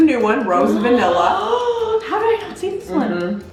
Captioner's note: gasping